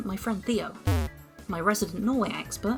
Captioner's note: bwomp